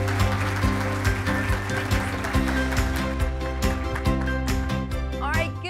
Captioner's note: cheers and applause